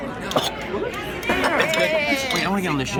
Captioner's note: coughs